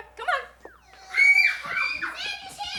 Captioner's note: children laughing